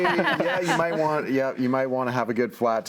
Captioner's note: panels laughing